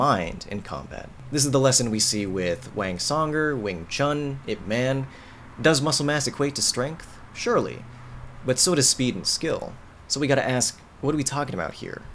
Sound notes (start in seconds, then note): none